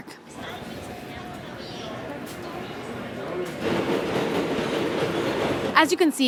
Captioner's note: indistinct chatter